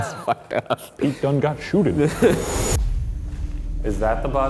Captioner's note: laughing